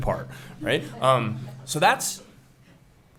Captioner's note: laughing